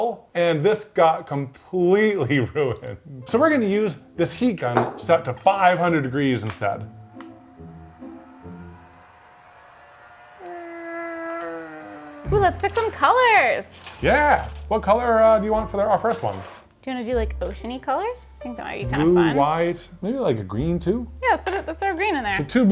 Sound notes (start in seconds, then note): 2.3 chuckling; 7.1 switch clicking; 8.9 heat gun whirring; 12.3 pendant bases jingling